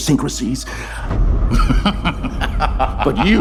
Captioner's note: laughing